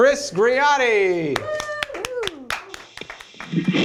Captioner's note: applause